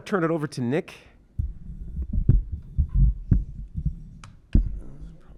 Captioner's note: microphone clattering